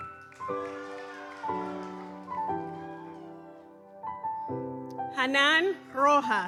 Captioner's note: gentle music continues; audience cheers